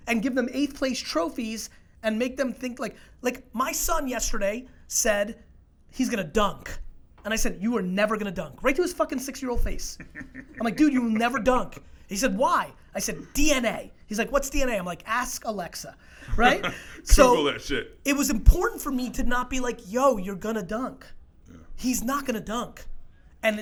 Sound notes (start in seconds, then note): 16.2 laughs